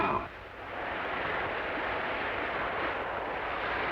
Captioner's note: wind howling